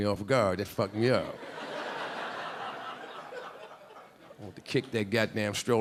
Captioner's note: audience laughing